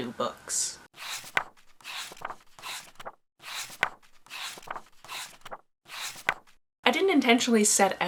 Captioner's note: pages turning